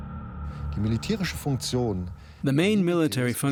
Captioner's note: speaking German